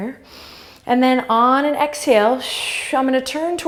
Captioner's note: exhale; inhale